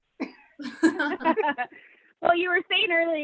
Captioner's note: laughter